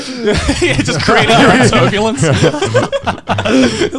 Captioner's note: laughing